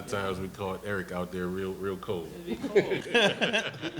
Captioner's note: laughs